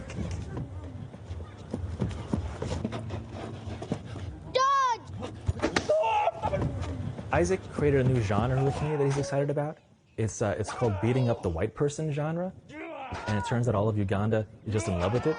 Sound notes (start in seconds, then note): 5.9 screams